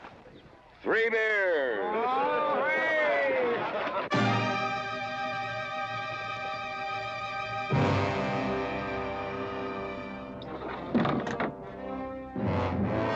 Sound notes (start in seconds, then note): 1.4 crowd cheering; 4.2 tense, dramatic music; 10.4 door sliding open